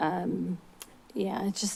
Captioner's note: smacks lips